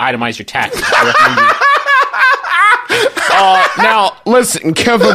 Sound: laughs hysterically

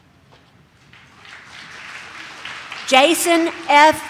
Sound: audience claps

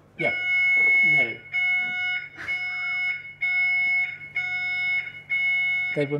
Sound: fire alarm siren beeps

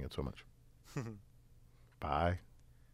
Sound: laugh

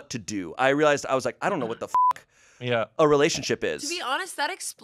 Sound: beep

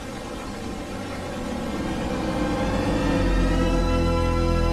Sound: high-pitched loud rising note

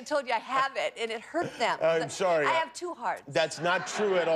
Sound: laughter

